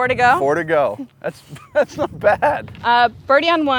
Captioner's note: laughs